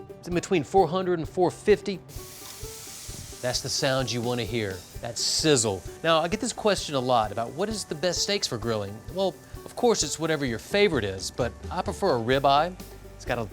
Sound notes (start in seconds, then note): 0.0 upbeat music; 2.1 sizzling